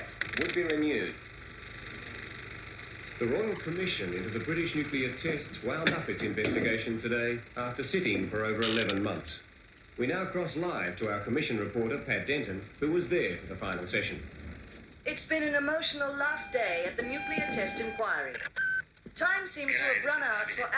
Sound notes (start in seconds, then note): 18.3 machine beeps